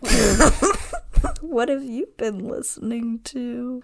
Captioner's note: laughing